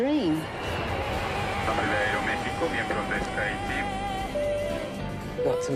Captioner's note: PA announcement, in Spanish